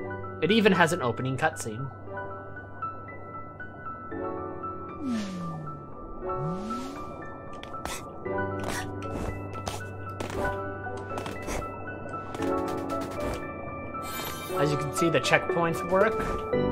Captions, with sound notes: It even has an opening cutscene. [Various Hat Kid noises] As you can see the checkpoints work...